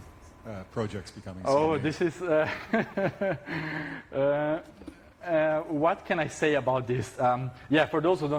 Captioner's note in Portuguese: risos